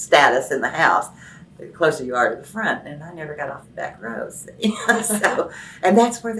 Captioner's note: laughs